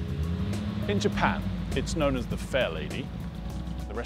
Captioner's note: voiceover